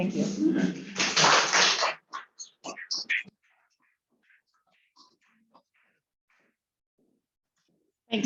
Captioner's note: applause